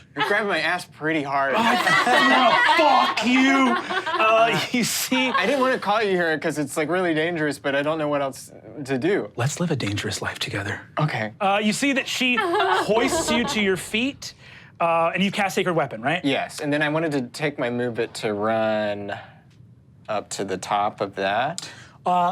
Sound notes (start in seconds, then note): 1.5 all laughs